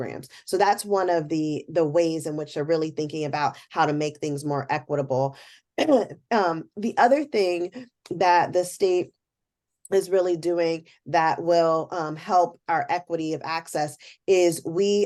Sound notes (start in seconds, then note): 5.8 cough